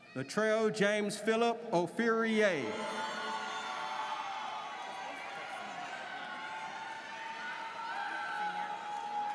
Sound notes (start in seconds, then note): 2.6 audience cheers